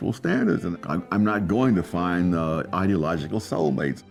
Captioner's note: none